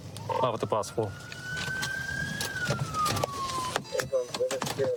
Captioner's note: sirens blaring